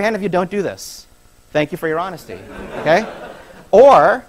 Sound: laughter

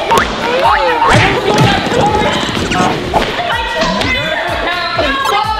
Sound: contestants chattering

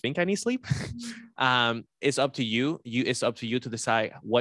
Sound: laughs

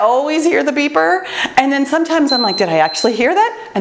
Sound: timer beeps

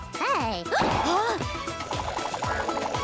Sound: gasps

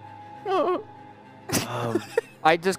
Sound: laughs

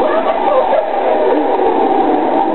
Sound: gulp

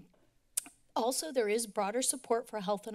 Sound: click tongue

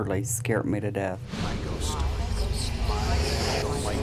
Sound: collective voices

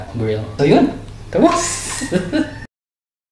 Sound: laughs

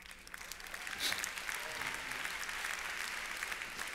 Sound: applause

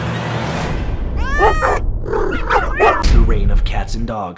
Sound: barking and meowing

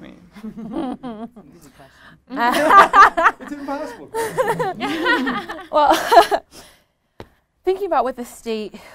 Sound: laughter

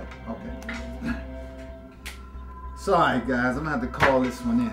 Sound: clears throat

